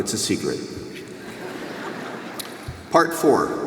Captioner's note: audience laughs